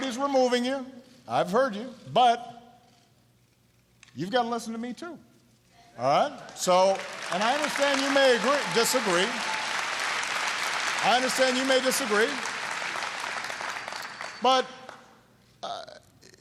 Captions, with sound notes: got to listen to me, too. All right? (Applause.) And I understand you may disagree. I understand you may disagree. But we've got to be able to talk honestly about these issues. All right?